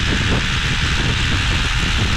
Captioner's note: rushing water